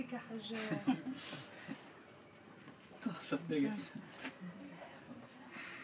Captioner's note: happy laughter